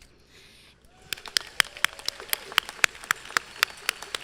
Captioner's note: audience clapping